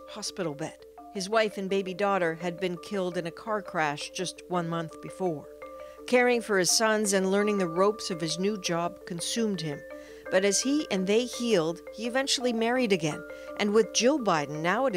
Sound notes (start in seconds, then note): none